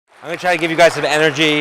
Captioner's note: audience applauding